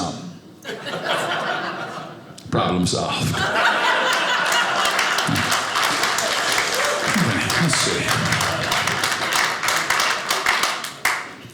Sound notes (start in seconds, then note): 0.3 audience laughing; 3.5 audience applauding